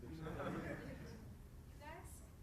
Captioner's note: laughter